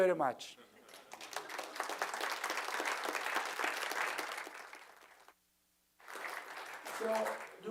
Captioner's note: applause